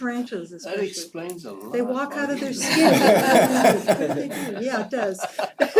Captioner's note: laugh